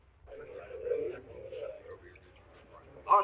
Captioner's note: all chattering